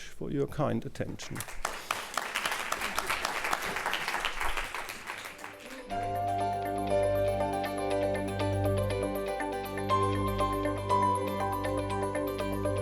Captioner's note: applause